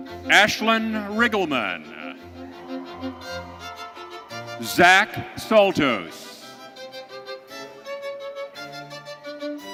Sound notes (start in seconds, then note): 2.2 audience cheering